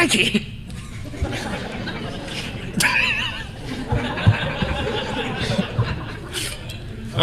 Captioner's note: laughter